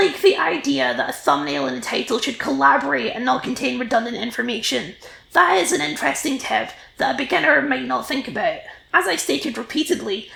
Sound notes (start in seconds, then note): none